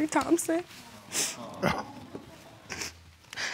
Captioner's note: sobs